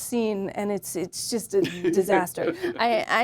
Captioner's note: James chuckles